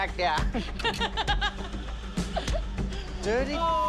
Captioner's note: laughs